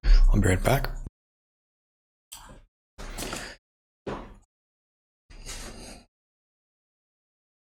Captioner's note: blank Audio